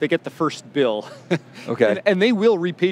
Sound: chuckling

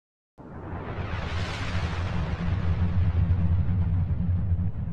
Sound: thundering sound effect

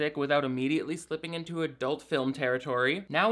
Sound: none

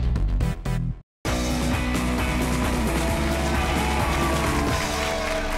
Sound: audience applauding

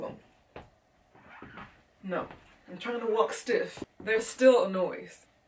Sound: boots squeaking

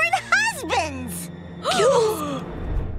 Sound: gasping

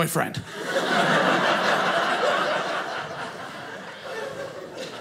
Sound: audience laughing

